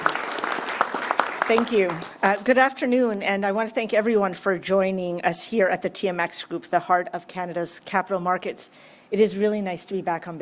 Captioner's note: applause